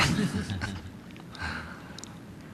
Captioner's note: laughter